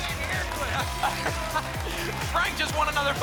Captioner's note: laughs